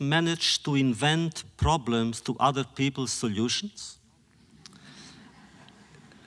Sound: laughter

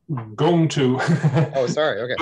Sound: laughs

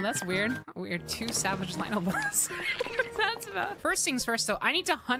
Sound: laughter

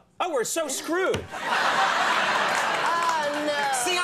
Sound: audience laughing

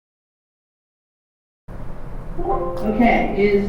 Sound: chime

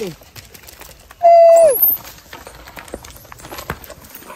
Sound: monkeys rustling

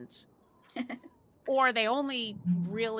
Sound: laughing

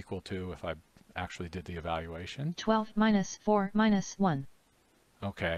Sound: synthesized speech

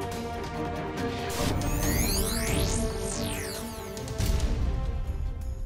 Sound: buzzing

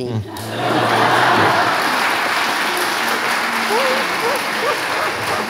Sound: audience applauding

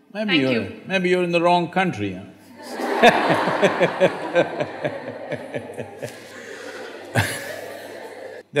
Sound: laughter

